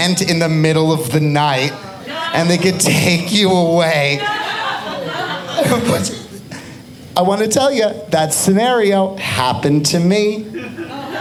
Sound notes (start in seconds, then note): 4.7 audience laughing